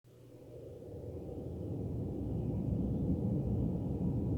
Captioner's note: wind blowing